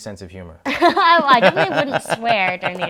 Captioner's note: both laughing